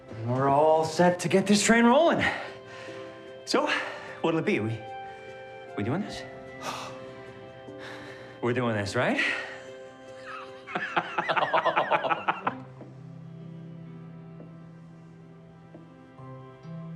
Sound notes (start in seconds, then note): 10.2 excited laughing; 14.2 soft music